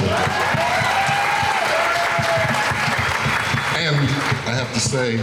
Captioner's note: crowd cheering